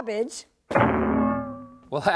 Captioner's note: CLANG Sound!